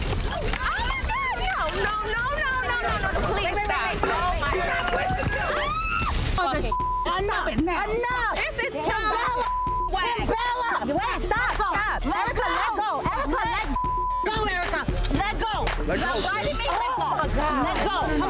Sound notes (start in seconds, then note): 0.0 glass shattering; 4.8 women screaming